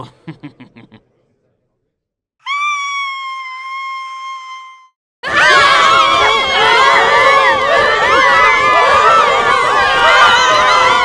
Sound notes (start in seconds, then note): 0.0 BIDO chuckles; 2.4 WOMAN #2 screams